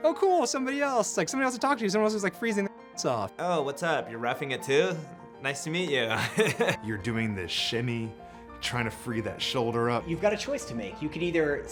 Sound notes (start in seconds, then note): 6.1 laughs